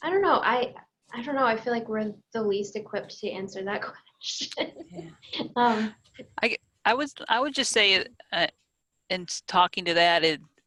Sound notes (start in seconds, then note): 5.8 laughs